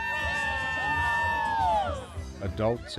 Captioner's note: people cheer